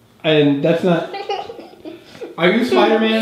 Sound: girl laughs

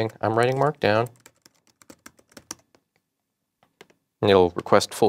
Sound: typing

